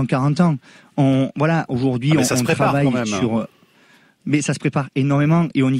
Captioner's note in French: Voix chasseur